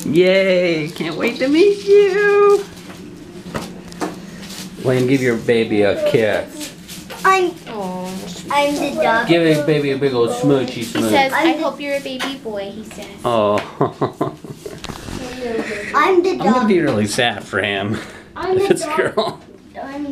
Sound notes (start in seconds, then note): 13.3 dad laughing